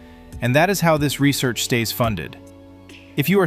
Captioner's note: excited